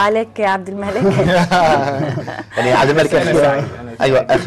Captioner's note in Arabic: ضحك